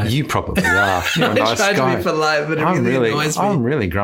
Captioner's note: laughs